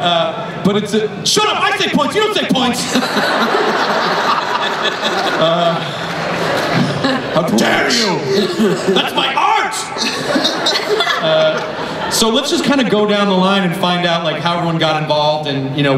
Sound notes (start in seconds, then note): 3.0 crowd laughs; 10.0 laughter